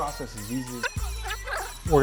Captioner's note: video rewinding squeaks